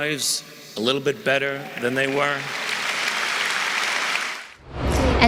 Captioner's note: applause